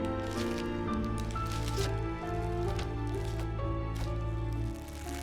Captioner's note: film rustles and creaks